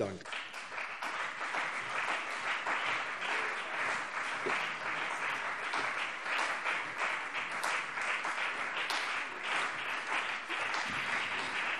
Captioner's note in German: Beifall CDU und BÜNDNIS 90/DIE GRÜNEN